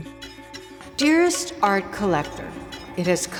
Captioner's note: echoing